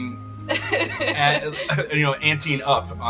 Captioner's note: laughing